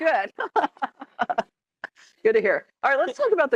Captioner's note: laughs